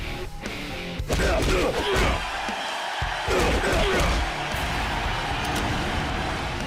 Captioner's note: cheering